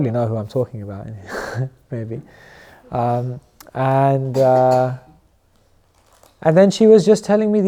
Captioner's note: chuckles